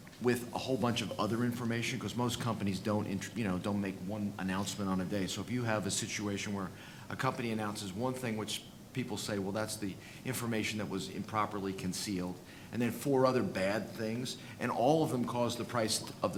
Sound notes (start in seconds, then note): none